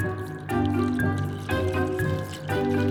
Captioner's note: dairy free milk pouring